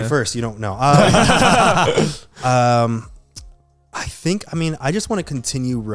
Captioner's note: laughing